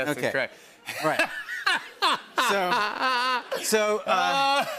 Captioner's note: laughter